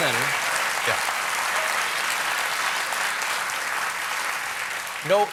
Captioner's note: applause